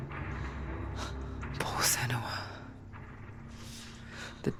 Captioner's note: gasp